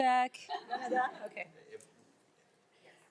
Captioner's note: group laughs